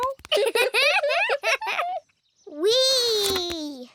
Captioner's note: both giggle